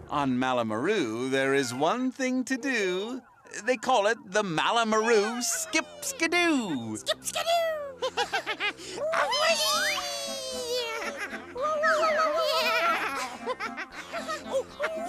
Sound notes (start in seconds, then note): 7.9 both laugh; 11.6 hooting; 13.8 both laughing